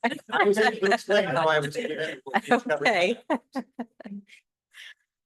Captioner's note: laughter